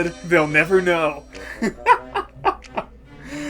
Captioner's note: laughing; inhale